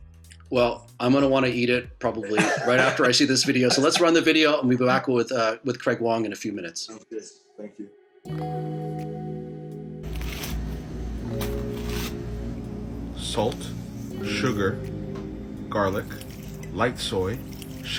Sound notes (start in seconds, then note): 2.2 chuckles; 7.1 upbeat music